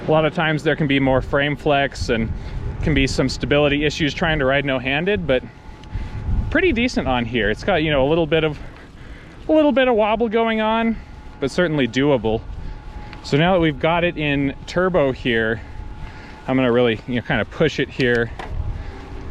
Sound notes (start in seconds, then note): 12.8 motor roaring softly